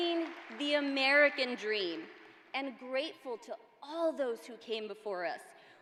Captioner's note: applause